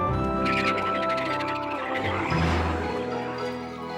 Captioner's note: croaks; frogs croaking